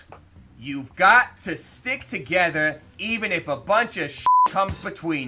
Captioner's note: beep